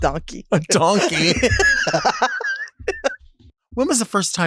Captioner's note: both laughing